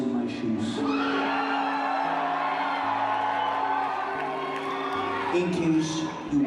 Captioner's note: audience cheers